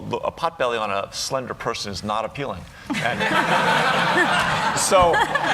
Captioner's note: laughter